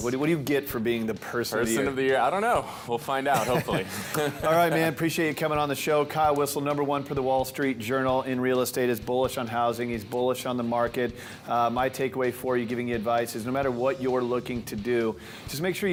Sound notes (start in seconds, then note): 3.3 laughs